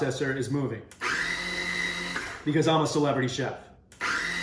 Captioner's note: food processor runs